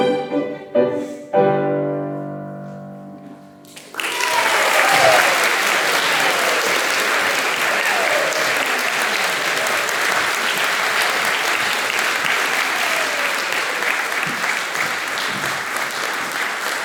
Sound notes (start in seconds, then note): 3.7 applause